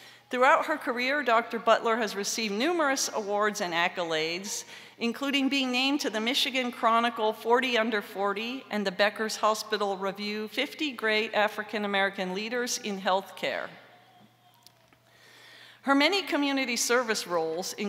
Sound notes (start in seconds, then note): none